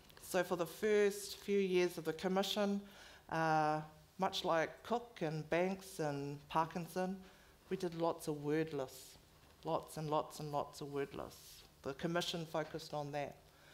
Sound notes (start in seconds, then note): none